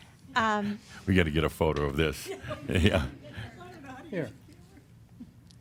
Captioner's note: Adamus chuckles